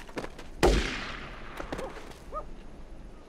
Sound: gun firing

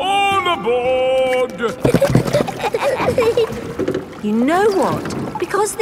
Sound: giggling

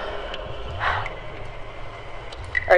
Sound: Mel sighs

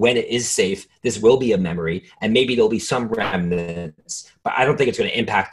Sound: static

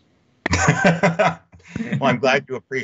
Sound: laughing

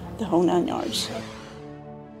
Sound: logo swooshing; orchestral music

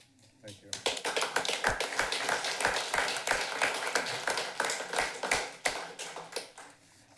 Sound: applause

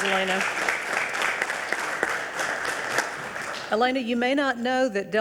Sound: audience applauding

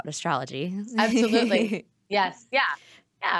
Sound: laughing

